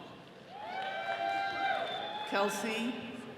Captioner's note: all cheering